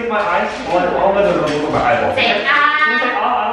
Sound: overlapping chatter

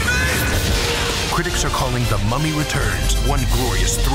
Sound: voiceover

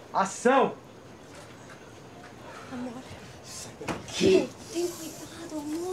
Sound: both speaking in foreign language

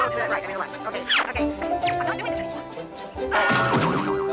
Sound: woman thudding

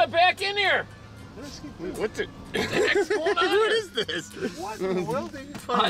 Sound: laughing

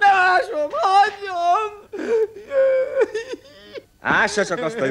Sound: wails childishly

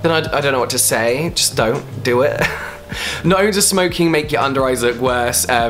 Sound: laughs

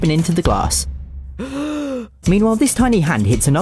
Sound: inhales

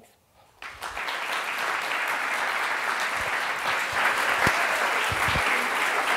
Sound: applause

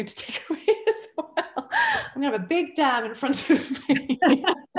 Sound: laughter

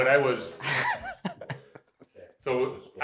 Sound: laughing

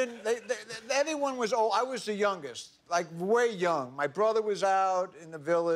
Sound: laughter

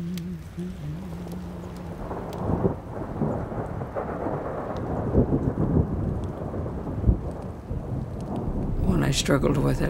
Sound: thunder cracks

